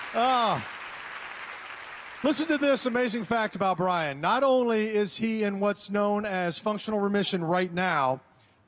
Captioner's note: applause